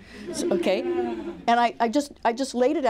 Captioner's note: laughter